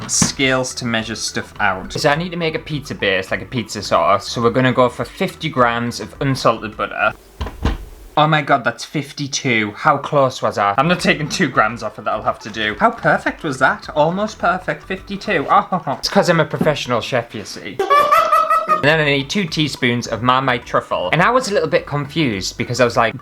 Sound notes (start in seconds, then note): 17.8 laughter